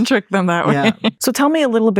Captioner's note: chuckles